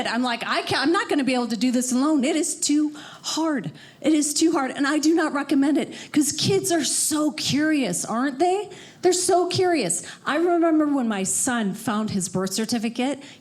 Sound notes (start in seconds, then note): none